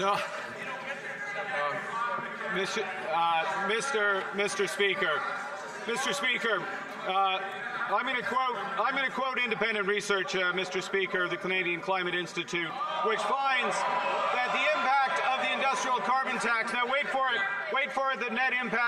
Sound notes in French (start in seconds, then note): 8.3 voix de l'interprète